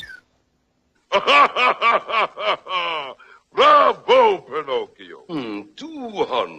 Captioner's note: chuckles heartily